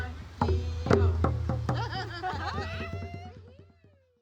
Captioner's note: all laughing